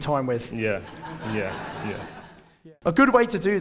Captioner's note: audience laughs